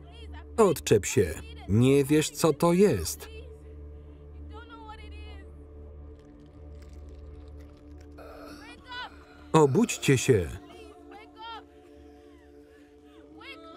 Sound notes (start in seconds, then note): 6.1 crunching; 8.2 wheezing; 12.7 ominous music